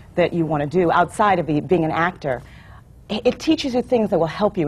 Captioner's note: none